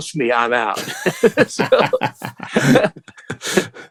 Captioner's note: laughter